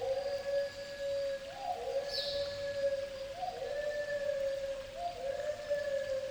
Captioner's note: animal howling